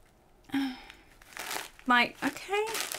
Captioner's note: sighs